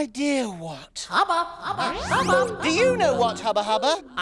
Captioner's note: outer Space Voice